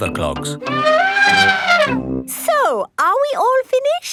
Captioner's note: trumpeting